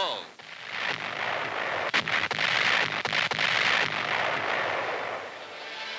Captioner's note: artillery fire